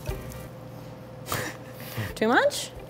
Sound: laughs

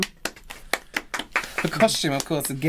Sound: half-Hearted Clapping

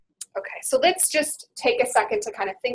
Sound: voiceover

